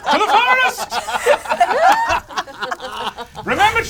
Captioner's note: all laugh